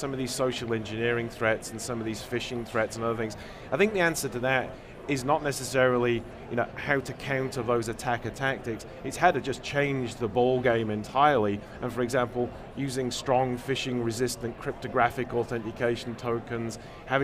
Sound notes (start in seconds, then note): none